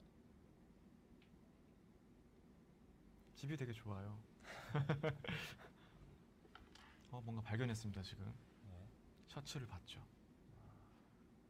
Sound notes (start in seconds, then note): 4.8 laughs